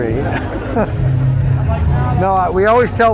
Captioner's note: laughing